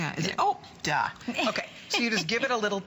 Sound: laughter

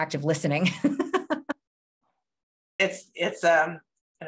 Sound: laughs

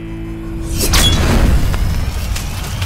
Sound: sword swings

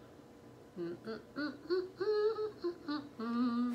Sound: humming

